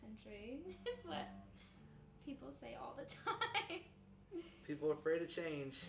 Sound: chuckles

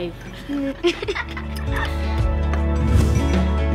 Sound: children laughing

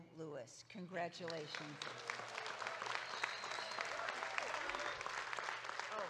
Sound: audience claps

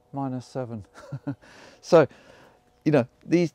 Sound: host chuckling

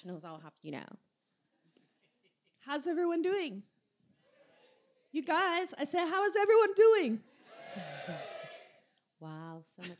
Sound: cheers from audience

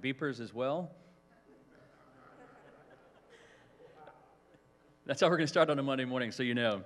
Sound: laughter

